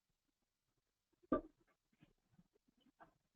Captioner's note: pause